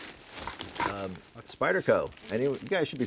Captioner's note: bags rustling